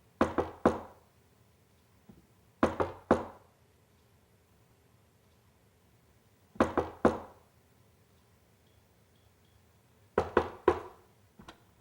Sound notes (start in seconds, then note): 0.2 knocking; 6.6 knocking